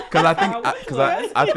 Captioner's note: laughter drowns out speakers